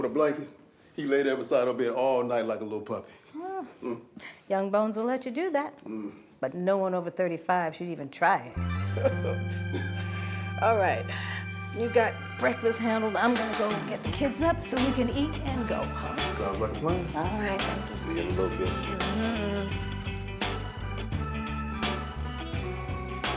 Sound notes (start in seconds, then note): 8.2 bright music; 8.8 laughs; 20.1 bright upbeat music